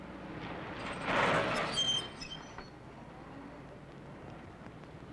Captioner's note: tires screech